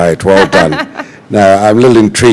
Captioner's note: laughter